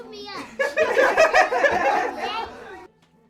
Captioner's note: laughing